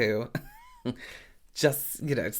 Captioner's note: laughing